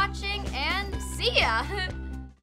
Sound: laughs

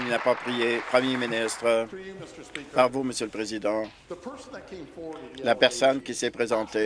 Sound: applause

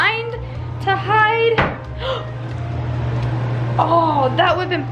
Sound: knocks on chest

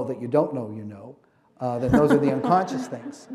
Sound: laughter

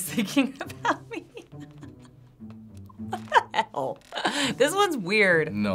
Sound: laughing

